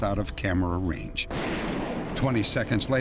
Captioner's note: gunshot